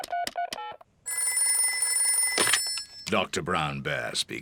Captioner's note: beeping; phone rings